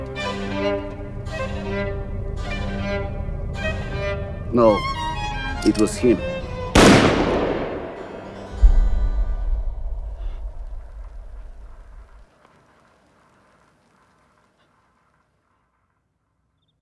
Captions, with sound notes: NO, IT WAS HIM. [GUNSHOT]